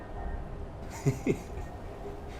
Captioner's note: laughter